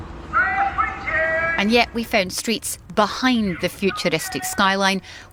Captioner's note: crowd noise